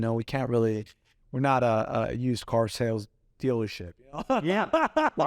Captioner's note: laughs